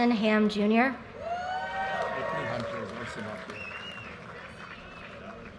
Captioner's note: audience cheers and applause